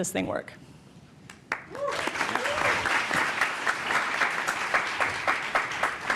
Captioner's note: applause